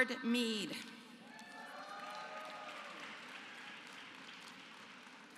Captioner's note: applause